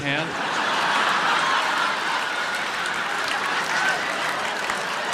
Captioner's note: audience laughs and applauds